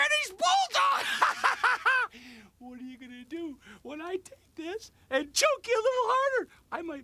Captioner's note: laugh